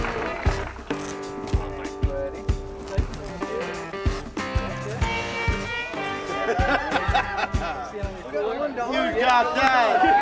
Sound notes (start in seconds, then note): 4.3 indistinct chatter